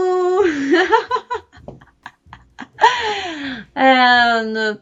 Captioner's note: laughs